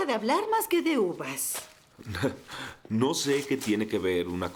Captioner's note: Freddie scoffs